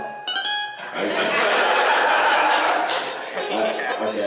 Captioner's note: laughter